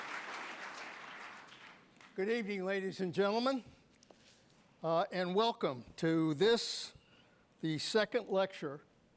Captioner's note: applause